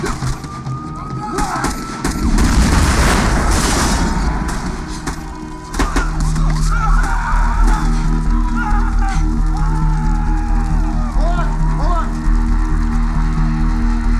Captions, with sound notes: Run! ( Yells ) ( Yells ) ( Screams ) Hold on! Hold on!